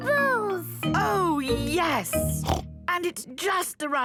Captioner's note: snorting